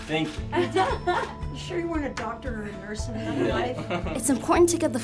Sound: laughter; laughter

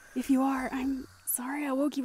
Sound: slow breaths

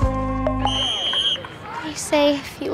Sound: whistle blowing; cheerleaders cheering

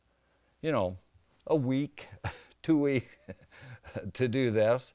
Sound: laughs

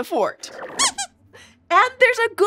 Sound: squeaks squeaking

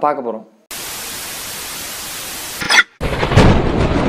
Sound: signal scrambles; thunder rumbles

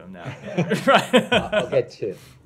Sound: laughter

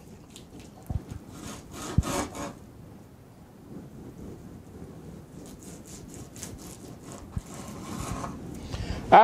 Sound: cutting sounds

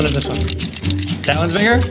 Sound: tapping

